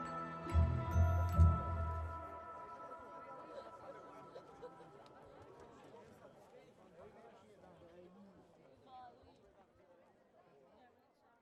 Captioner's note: crowd chatter